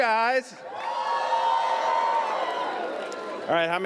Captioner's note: audience cheers